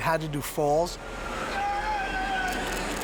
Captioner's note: screaming